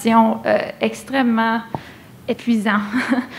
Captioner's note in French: rires